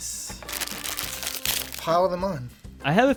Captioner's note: bag rustles